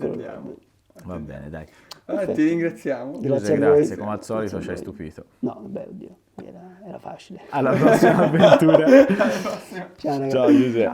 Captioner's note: laughs